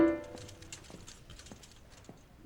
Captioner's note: piano stops abruptly; squeaky wheels